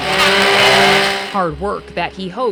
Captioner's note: power tool buzzing